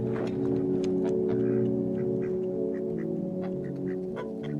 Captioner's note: ducks quacking; pig oinks; tense ominous music